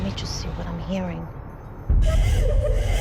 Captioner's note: ghostly crying